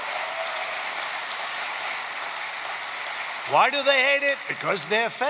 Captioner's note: applause